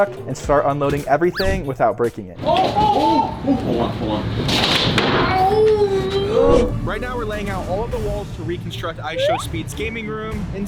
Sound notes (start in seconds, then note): 1.3 effect squeaks; 4.9 board thuds